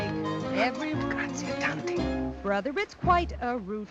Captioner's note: speaking Italian